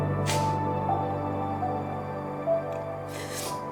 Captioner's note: sobbing; melancholy classical music